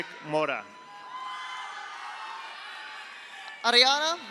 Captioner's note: audience cheers; audience applauds